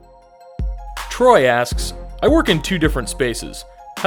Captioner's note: voiceover